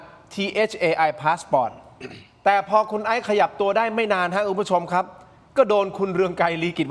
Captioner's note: clears throat